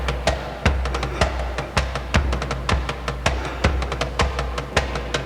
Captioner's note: heavy breathing